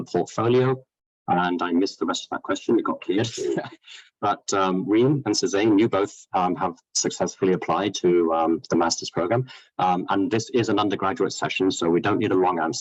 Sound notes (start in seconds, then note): 3.2 laughs